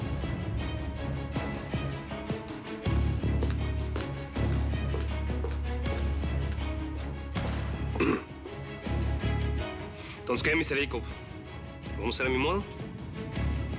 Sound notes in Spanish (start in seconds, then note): 7.9 carraspea